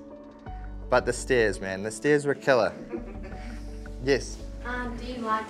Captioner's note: laughter